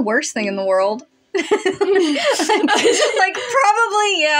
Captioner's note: giggle; laugh